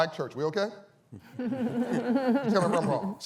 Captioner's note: laughter